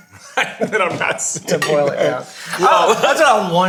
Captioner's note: all laughing